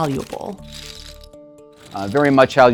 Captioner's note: graphic clattering